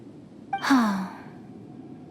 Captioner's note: sigh